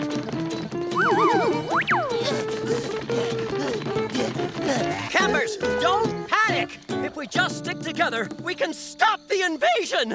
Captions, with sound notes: [panting] Campers, don't panic! If we just stick together, we can stop the invasion!